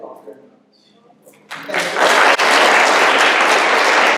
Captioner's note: applause